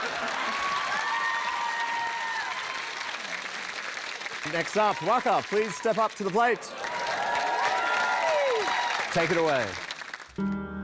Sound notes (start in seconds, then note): 0.0 cheering, applause